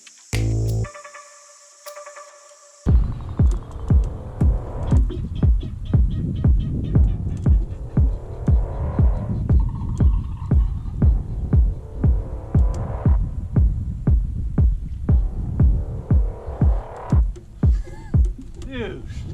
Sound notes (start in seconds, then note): 0.2 intense music; 3.3 drums thumping; 6.2 birds chirping; 9.2 drums thumping; 12.3 wind blowing; 14.9 drums thumping; 17.6 man laughing